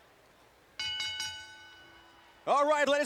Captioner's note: bell ringing